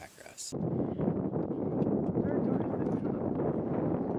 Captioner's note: wind whistles